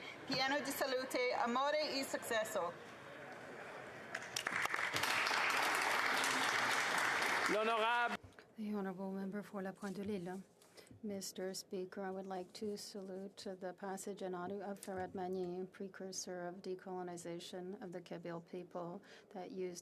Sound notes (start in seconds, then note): 6.3 speaking Alternate Language